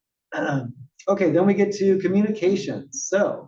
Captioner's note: cough